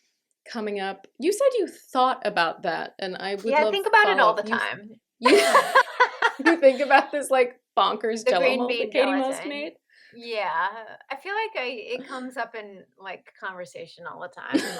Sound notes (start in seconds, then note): 5.2 laughter